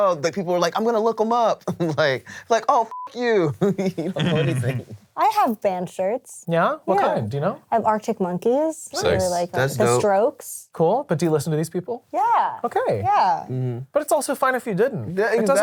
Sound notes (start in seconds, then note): 2.8 beep